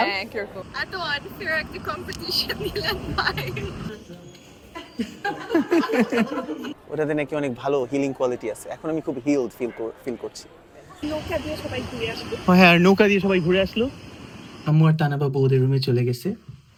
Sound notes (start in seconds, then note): 4.7 loud laughter